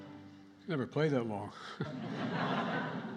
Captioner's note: laughter